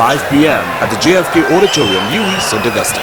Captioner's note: wild applause and cheering for 22 seconds